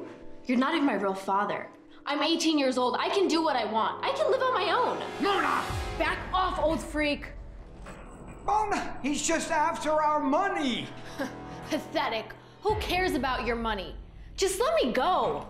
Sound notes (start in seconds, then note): 11.1 scoffs